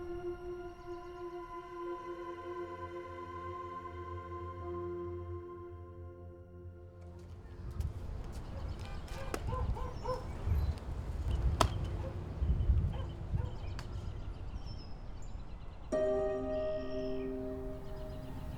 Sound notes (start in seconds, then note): 8.4 dog barking; 15.9 sad music